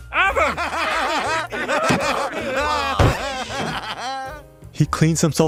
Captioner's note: laughter